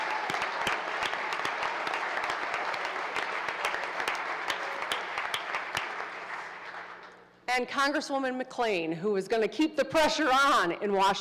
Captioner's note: applause